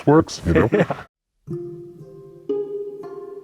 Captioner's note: interviewer laughs